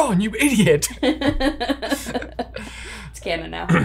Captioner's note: laughs